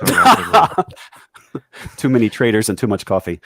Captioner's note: laughing